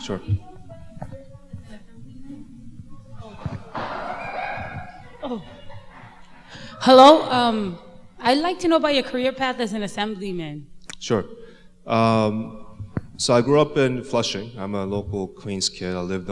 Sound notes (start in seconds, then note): 3.6 children playing nearby